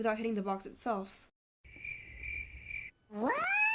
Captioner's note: chirping